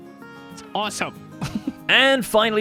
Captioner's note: giggles